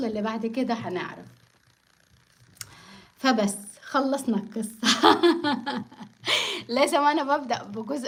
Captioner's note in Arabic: ضحك